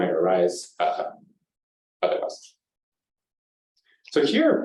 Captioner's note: pause